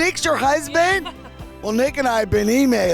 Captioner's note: laughs